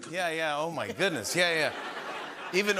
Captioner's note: laughter